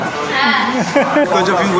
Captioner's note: laughing